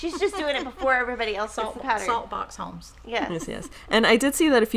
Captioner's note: laughing